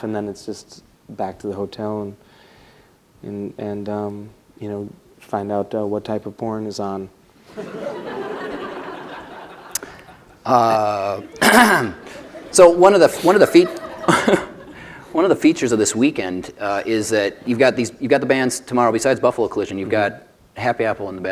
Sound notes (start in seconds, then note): 7.5 laughter; 11.3 laughs and clears throat